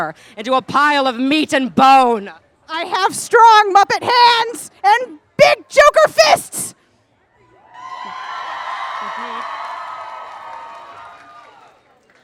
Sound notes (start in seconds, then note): 7.7 crowd cheers